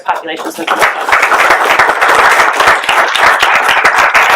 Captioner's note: applaud